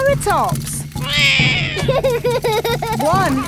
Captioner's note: laughs; roars